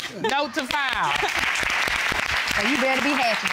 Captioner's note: audience applauds